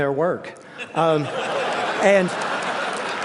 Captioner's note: laughter; applause